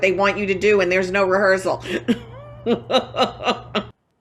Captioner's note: laughs